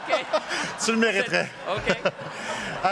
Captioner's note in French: rires